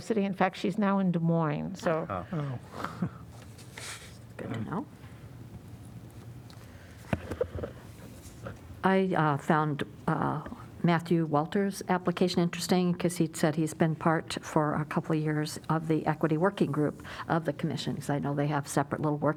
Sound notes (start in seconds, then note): 3.6 laughter